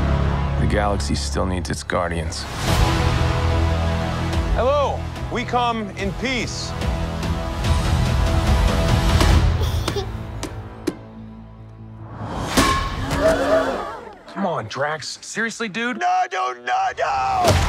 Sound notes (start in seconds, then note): 9.6 alien giggles; 13.0 crowd gasps